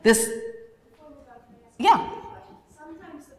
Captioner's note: voiceover